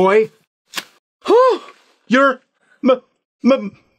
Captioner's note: gasps